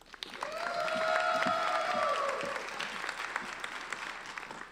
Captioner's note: applauding